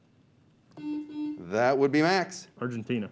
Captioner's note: beep